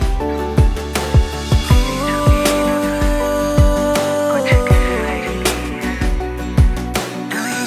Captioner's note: Humming